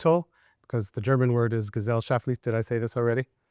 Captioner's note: speaking German